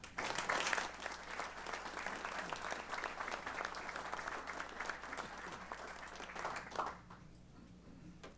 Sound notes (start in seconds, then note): 0.0 applause